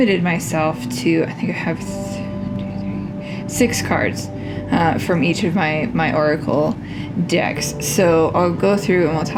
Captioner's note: whisper, one, two, three